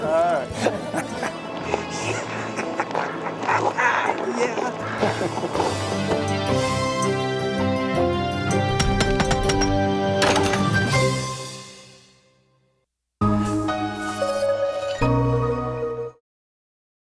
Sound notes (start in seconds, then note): 0.5 laughter; 3.7 laughs; 6.1 laughter